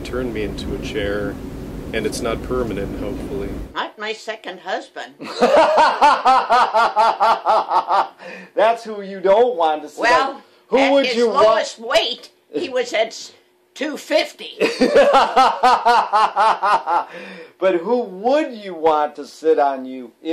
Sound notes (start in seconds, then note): 5.2 laughs loudly; 14.6 laughs loudly